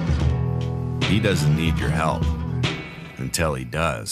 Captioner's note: voiceover